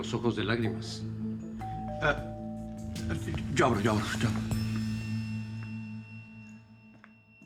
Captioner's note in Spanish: Timbre de la puerta